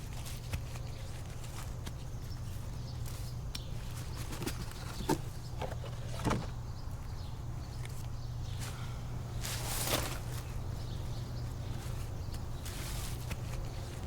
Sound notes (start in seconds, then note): 5.6 bucket clatters; 8.9 birds chirping; 9.3 rustling dirt